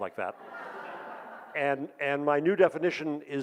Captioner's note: audience laughs